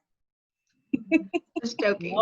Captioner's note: laughing